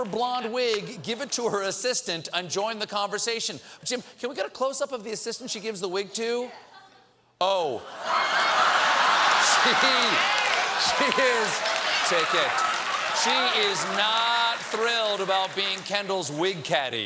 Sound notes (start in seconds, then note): 6.4 laughter; 6.5 applause